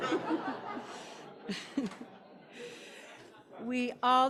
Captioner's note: audience laughing